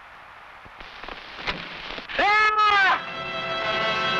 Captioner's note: arrow whooshing; man screaming; dramatic music